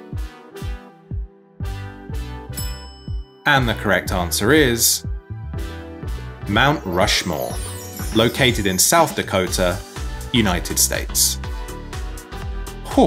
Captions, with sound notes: (bell clinking) And the correct answer is... Mount Rushmore, located in South Dakota, United States.